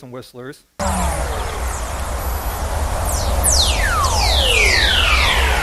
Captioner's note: whistling